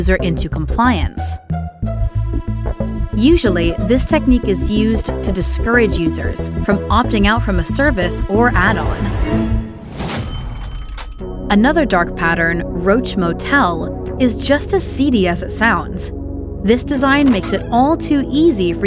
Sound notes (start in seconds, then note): 1.8 ominous music; 10.1 cash register dings